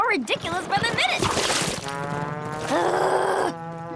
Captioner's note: splash!